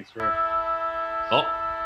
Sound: siren

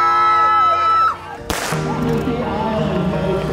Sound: group cheering loudly; gun shot; uplifting music

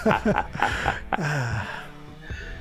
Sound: laughing

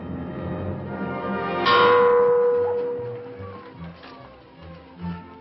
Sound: bell dinging

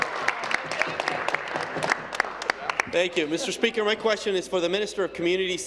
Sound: cheers; applause

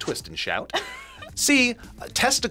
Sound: laughs

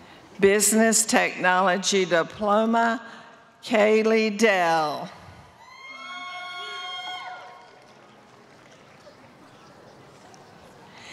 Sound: applause

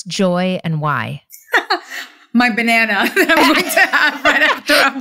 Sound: laughing

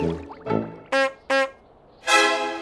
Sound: clown horn noise

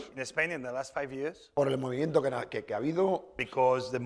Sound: speaking spanish

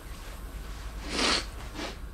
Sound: air hisses; sniffles

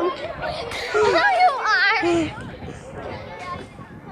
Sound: laughing

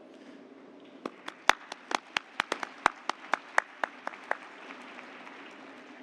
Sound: applause

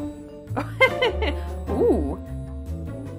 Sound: laughs

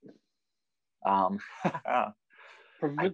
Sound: chuckles

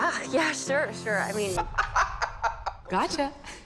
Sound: boy laughing

